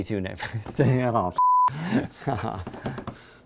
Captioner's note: laughing